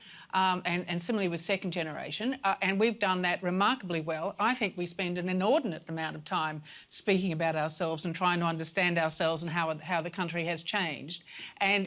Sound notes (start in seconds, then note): none